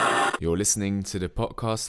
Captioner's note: old radio mode: static